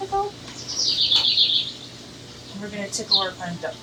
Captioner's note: bird chirps